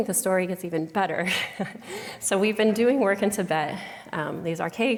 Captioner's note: laughter